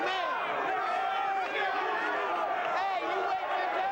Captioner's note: crowd jeering